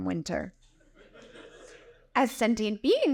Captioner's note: audience laughing